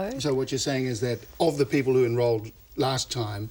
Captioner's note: none